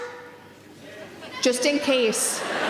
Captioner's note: audience members calling out